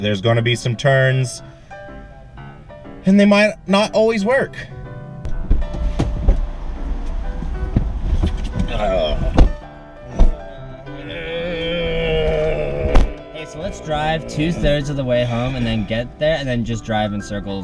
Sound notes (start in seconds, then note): 10.0 disgruntled moans